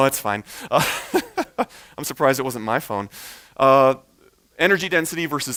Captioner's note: chuckles